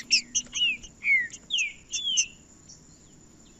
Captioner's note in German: trinca ferro cantando